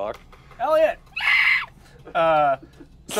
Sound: screeches

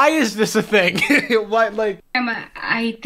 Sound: laughs

